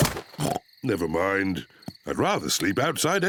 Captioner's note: oinks